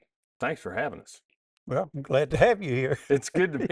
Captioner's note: laughs